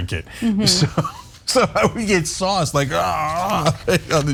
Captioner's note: laugh